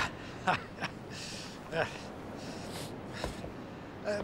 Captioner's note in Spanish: risas